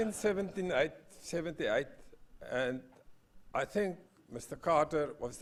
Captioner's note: laugh